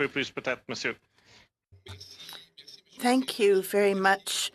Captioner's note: speaking French